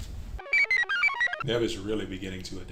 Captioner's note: computer chirps